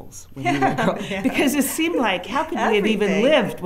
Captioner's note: both laughing